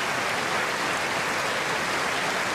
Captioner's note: applause